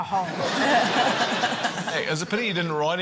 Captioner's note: laughter